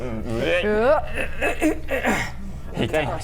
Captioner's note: climbing grunts